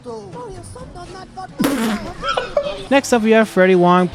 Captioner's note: laughing